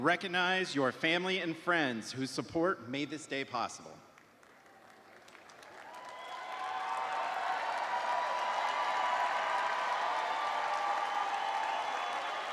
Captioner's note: cheers and applause